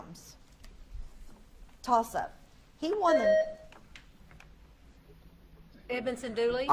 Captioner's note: buzzer beeps